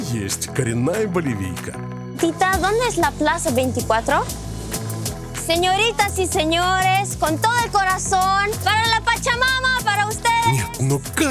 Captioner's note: speaking in Spanish